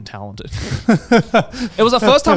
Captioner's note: laughs